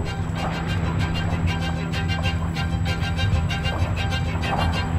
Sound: wings flapping

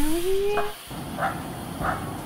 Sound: bark bark

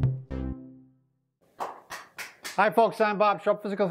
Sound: claps

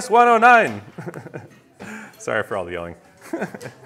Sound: chuckles

